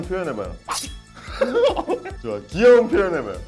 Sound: haha

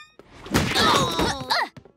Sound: grunting

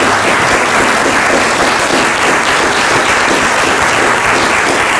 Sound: applause

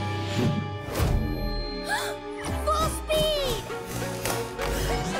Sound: gasps

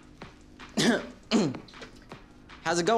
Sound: clears throat

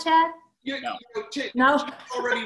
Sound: laughs

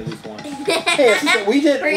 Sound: laughs

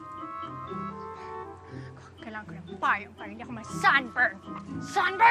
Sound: exhales

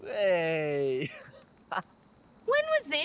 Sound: laughter

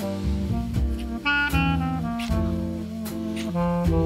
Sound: kissing

